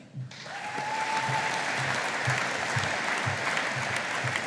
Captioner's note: audience applauding